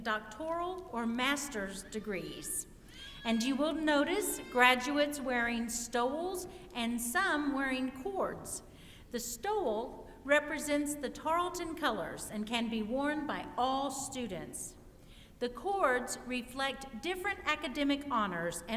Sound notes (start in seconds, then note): none